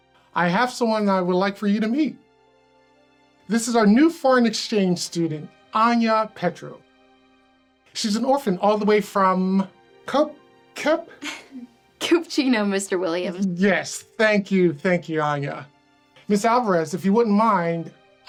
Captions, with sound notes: I have someone I would like for you to meet. This is our new foreign exchange student, Anya Petrov. She's an orphan all the way from. (stammers) (Anya laughs) - Kupchino, Mr. Williams. - Yes, thank you, thank you, Anya. Ms. Alvarez, if you wouldn't mind,